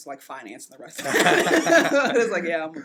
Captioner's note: laughs